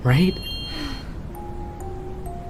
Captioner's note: Yumeka sighs